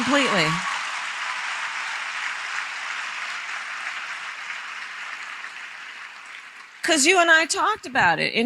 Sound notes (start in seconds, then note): 0.0 applause